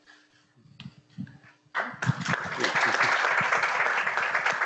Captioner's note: audience applauds